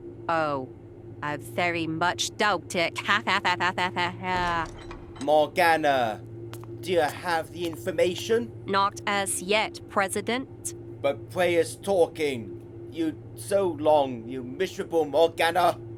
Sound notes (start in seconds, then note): 3.0 evil Laugh